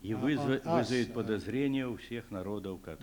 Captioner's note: non-english speech